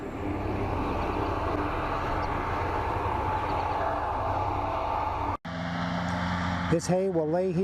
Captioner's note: tractor with mower sound